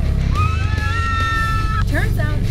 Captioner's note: screaming